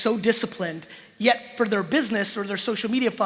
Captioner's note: none